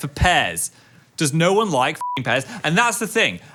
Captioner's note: beeps